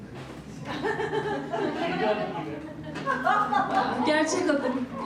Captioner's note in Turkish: Gülüşmeler